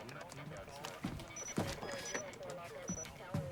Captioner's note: alarm